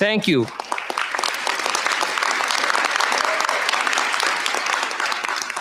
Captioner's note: applause